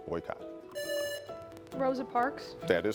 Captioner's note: buzzer buzzing